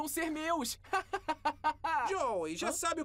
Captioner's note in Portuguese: risada